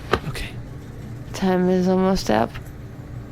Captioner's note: whispering; slurring